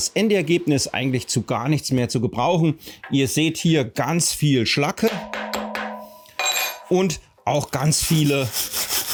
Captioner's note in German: Zischendes, unruhiges Schweißgeräusch